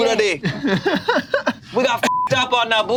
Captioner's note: laughs; beep